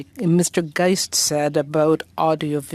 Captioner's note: speaking French